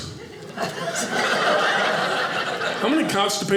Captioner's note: audience laughing